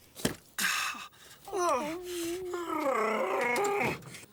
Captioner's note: dog whining